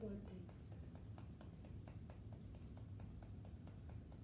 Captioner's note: gentle tapping